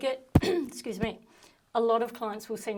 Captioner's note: clearing throat